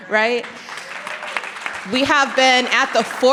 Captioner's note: audience clapping